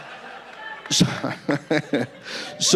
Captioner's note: laughing